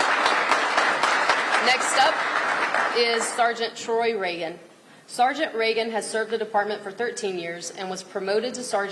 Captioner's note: applause